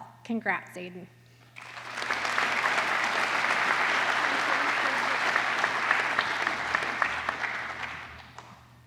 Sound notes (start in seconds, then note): 1.5 applause